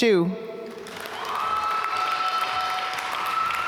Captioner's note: applause